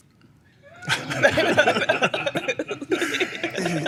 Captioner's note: laughter